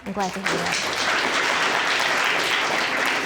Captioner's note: applause